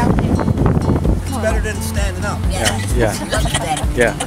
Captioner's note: laughing